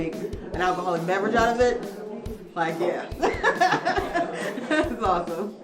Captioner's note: laughs